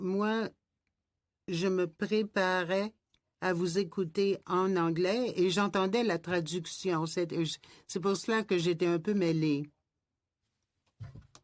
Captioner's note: speaking French